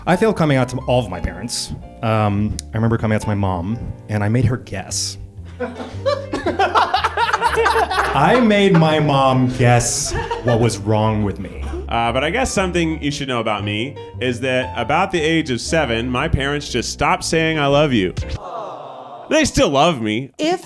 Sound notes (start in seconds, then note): 18.4 crowd